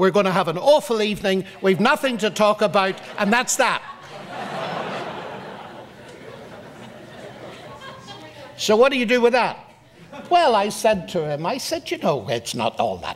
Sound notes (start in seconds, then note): 3.8 audience laughs